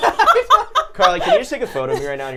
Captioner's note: laughing